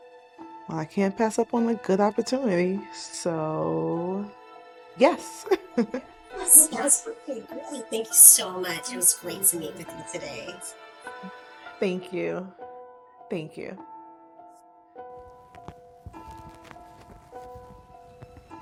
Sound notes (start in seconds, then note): 5.2 laughs; 15.2 suspenseful music